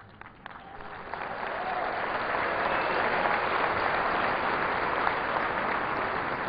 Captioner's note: applause